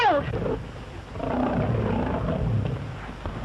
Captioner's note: tiger growling